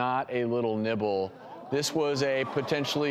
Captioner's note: crowd gasps